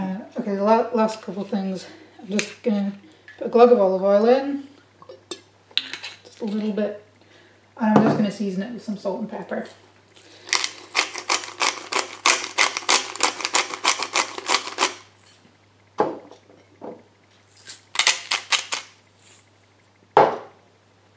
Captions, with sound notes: Ok, the last couple things, I'm just gonna put a glug of olive oil in Just a little bit and I'm just gonna season it with some salt and pepper (pepper mill grinds) (salt mill grinds)